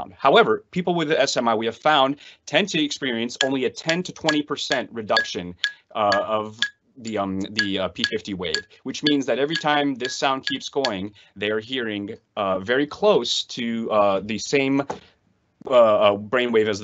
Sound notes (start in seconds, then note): 7.5 pen tapping